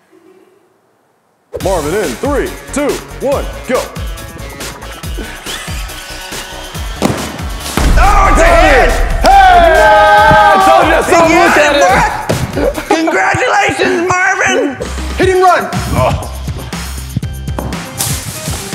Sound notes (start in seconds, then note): 7.0 pop; 7.7 boom; 13.0 in weird accent again